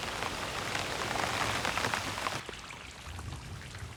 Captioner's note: rain pattering